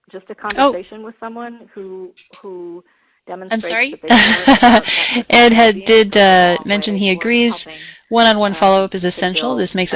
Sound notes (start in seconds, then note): 3.6 laughs